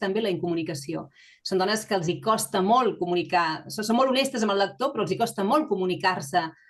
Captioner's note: continues speaking in Catalan